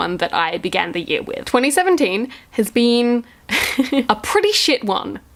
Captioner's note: laughs